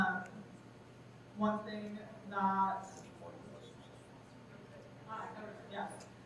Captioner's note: faintly speaking